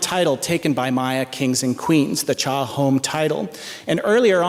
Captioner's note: non-english speech